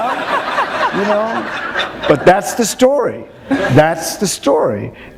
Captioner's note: laughter